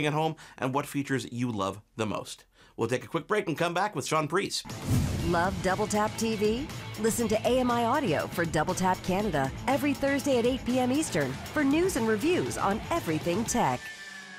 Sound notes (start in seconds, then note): 4.4 inspirational music; 5.3 voiceover